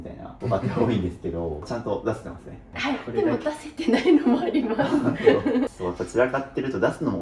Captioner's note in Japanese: 笑い